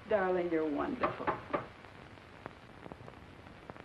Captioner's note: knocking